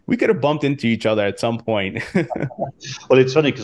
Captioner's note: laughs